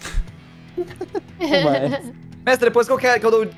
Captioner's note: laughter